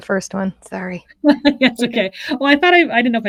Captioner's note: laughs